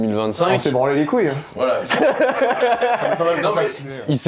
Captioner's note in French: rires